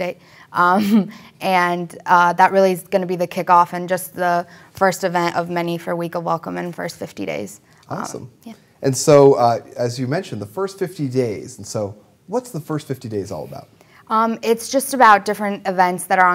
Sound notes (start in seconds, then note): none